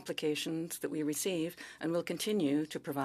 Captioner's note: speaking French